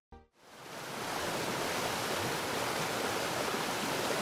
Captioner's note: waterfall rushes